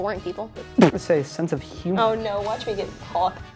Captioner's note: spits; laughing